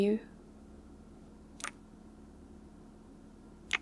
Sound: kiss

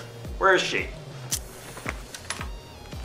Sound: Alexa smacks her teeth

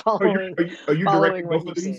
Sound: chuckles

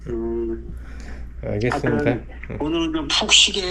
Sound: yawning

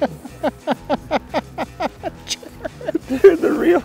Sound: laughs

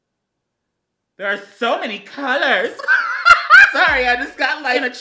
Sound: laughs

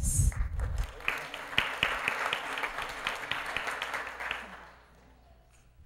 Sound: applause

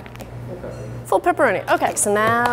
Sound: voiceover

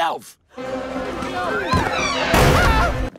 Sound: crowd gasping; crowd yelling; doors bang

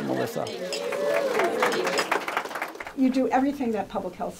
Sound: cheering and clinking of glasses

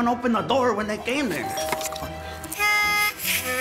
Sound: doorbell rings

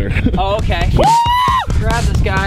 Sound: yells

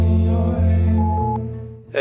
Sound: beep

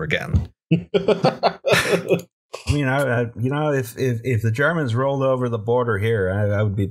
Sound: laughter

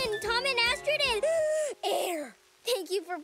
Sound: inhale

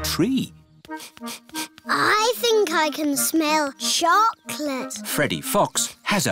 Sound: sniffs

